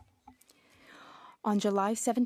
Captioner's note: speaking French